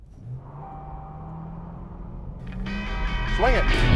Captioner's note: car whirring